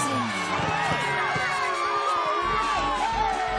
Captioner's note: cheers and applause